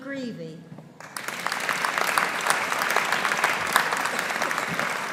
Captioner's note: audience applauding